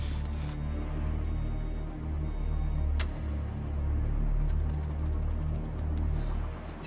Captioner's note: tense music continues; alarm wailing